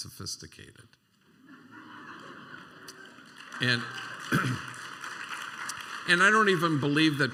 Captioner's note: laughter and applause